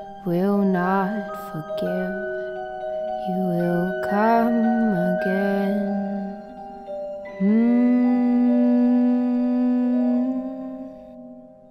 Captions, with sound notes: He will not forgive he will come again (humming)